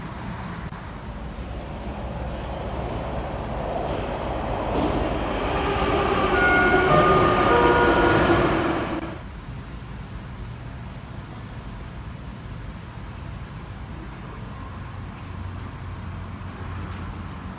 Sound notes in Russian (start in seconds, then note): 4.2 прибытие поезда на станцию; 4.2 сигнал о прибытии поезда